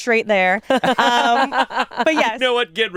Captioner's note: all laugh